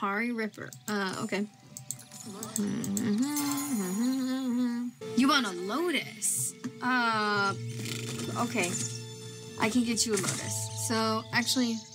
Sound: hums

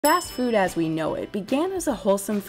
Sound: bell chimes

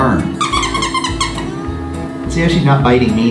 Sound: toy squeaking

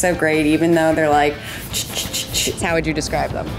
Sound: hands rubbing together

